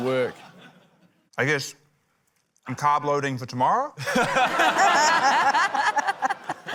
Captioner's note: laughter